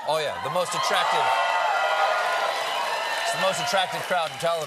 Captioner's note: cheers and applause